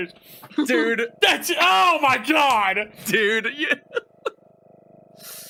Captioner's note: laughs